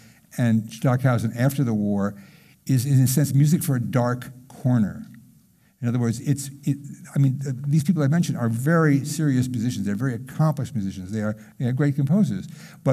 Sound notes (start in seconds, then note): none